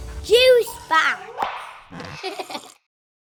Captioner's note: text popping